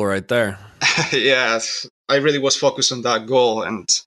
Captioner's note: laughs